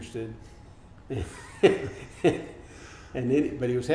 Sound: laughing

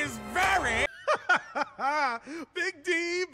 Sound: Dice laughing

